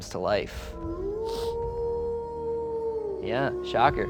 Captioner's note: werewolf howling